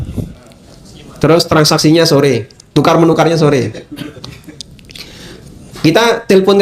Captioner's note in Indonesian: berdehem